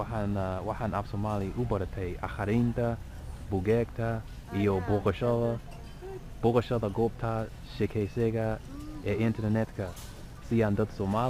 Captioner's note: somali